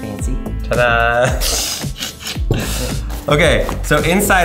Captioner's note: laughs